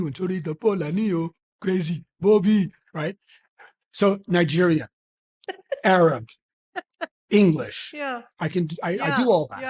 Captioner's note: speaks in Nigerian accent